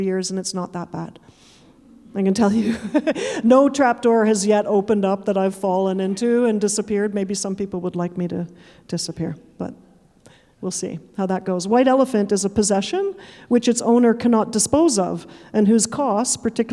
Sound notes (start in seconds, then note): 2.5 chuckling; 2.6 audience chuckling